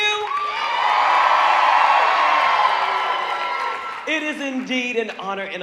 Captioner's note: audience cheering